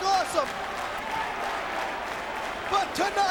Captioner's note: crowd clapping